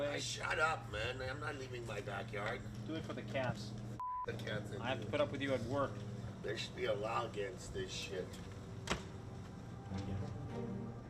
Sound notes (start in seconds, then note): 4.0 beep; 8.8 door closes